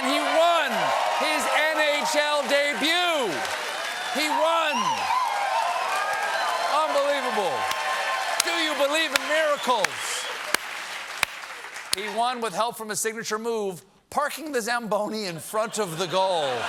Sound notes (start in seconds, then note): 3.1 cheers and applause; 12.0 applause